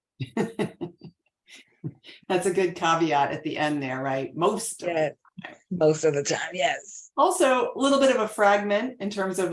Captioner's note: laughs